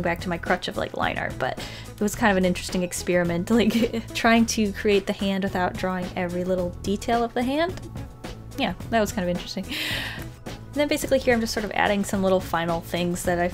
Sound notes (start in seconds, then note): 3.6 laughs